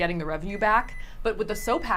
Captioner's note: microwave beeping